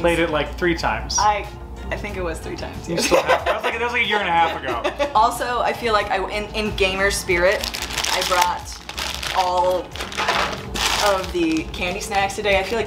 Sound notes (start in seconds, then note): 3.0 laughs